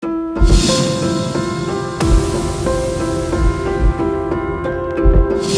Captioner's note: logo whooshing; upbeat music